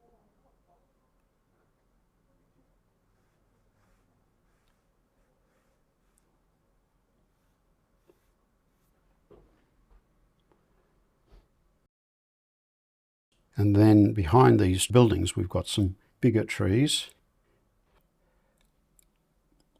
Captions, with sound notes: [silence] Then behind these buildings we've got some bigger trees.